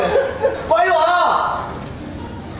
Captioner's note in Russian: персонал угорает